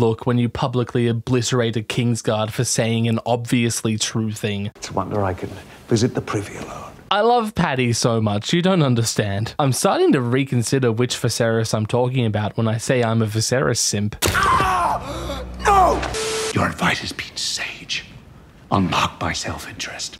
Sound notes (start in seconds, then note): 15.6 sexy Harry Lloyd voice